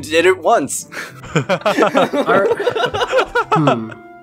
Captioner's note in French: rigolent